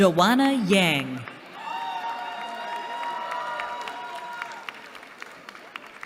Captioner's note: cheering